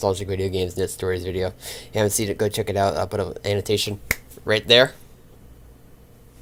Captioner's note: snaps fingers